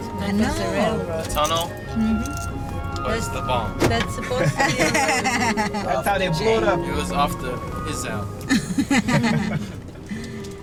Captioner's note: laughter